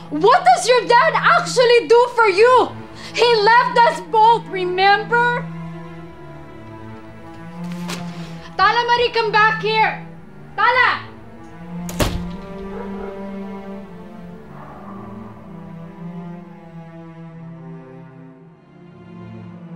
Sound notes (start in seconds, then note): 11.8 door closes; 14.6 melancholic music